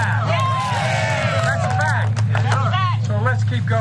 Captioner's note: applause